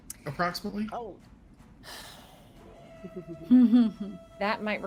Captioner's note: chuckles